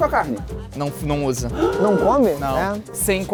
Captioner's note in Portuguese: faz som de surpresa